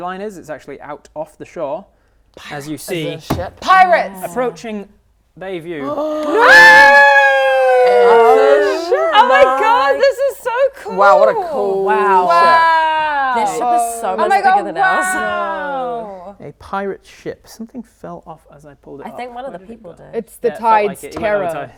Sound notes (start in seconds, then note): 3.2 smack; 5.8 gasps; 5.8 cheering